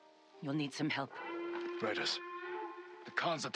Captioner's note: alarm